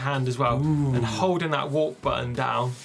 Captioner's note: impressed hum